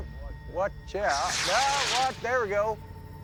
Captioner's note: rocket hissing